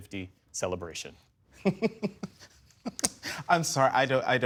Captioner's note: laughter